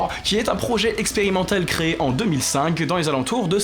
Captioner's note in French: none